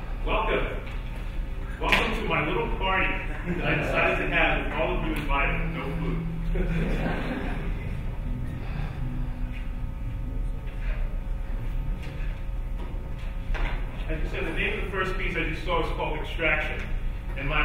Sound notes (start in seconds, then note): 6.3 audience laughing